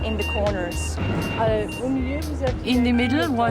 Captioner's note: non-english speech